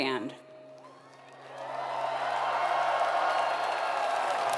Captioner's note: applause